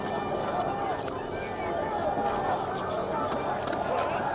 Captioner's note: fighting, scuffling